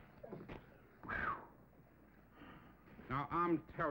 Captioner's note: sighing